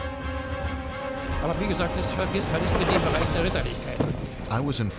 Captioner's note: speaking german